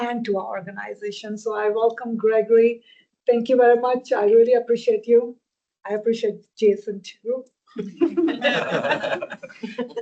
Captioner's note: laughter